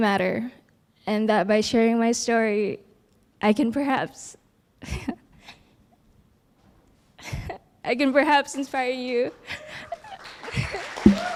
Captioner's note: applause